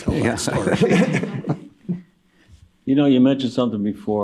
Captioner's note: laughter